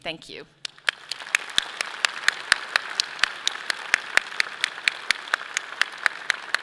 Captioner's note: audience clapping; clapping